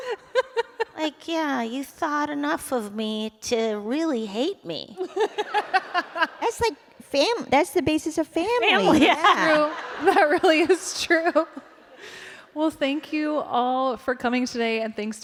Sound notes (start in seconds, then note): 5.0 laughter; 8.7 laughter